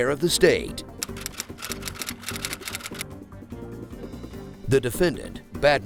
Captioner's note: typewriter clacking